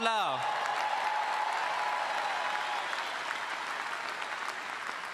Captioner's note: all applauding